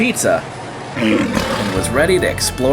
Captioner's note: lion roaring